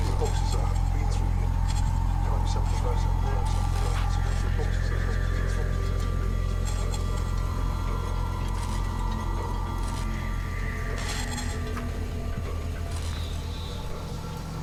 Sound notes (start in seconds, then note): 1.2 voices echoing; 4.5 disorienting music; 4.5 voices echoing